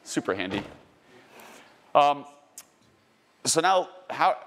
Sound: car door shuts

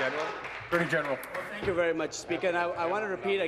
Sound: applause

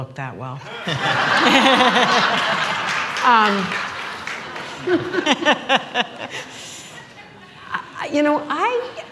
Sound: laughter

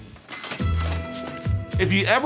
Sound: cash register dings

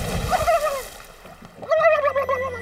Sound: gobbling

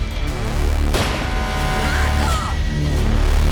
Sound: horn blares

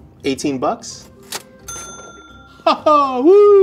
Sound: cash register dinging

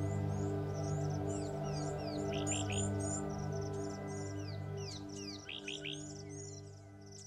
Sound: birds chirping

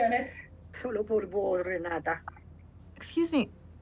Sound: Spanish

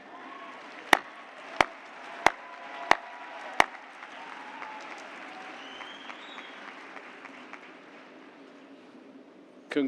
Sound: cheers and applause

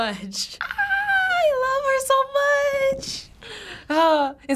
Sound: squealing

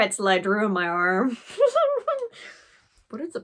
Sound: awkward laugh

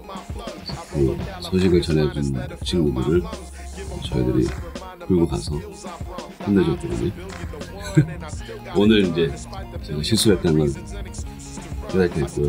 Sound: haha

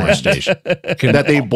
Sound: laughing

